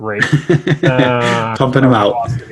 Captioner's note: chuckles